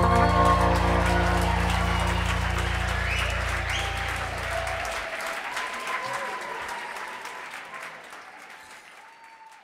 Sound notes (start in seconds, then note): 0.0 audience applauds; 0.0 audience cheering